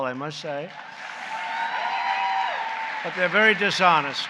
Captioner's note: applause